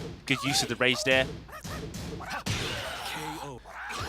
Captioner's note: game sounds